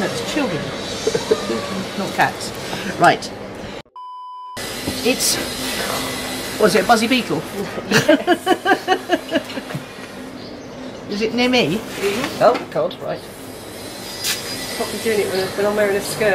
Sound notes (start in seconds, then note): 1.0 laughing; 3.9 beep; 7.5 laughing